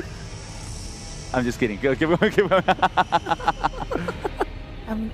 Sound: laughs

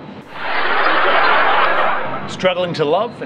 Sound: laughing

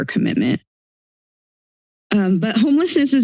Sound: silence

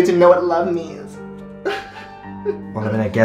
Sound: sobbing

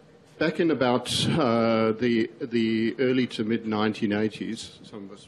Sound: voiceover

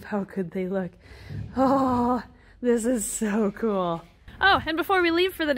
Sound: sighs

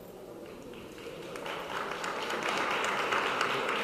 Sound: clapping

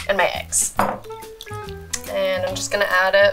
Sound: whisking

